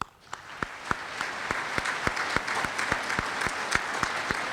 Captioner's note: applause